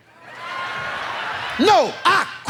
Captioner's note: audience laughs